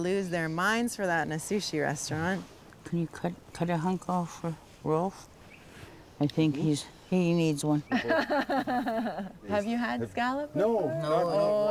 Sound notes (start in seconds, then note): 7.9 laughs